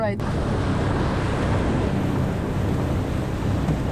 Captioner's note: water splashing